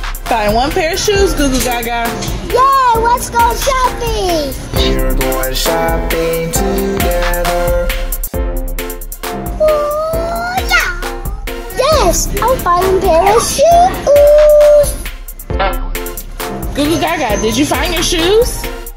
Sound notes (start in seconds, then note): 8.1 playful children's music; 15.5 silly horn honking